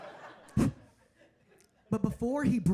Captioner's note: blowing